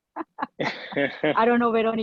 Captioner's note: laughing